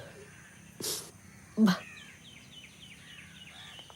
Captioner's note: weeping